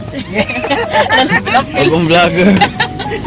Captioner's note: laughing